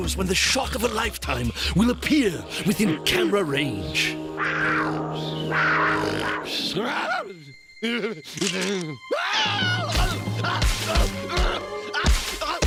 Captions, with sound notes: ONE NEVER KNOWS WHEN THE SHOCK OF A LIFETIME WILL APPEAR WITHIN CAMERA RAGE. (growling) AHH. AHH! (groaning)